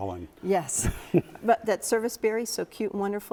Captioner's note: chuckles